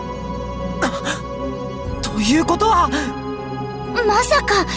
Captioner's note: gasp